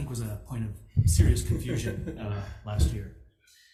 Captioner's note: testifier laughs